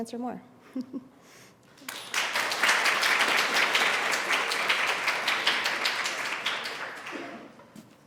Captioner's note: applause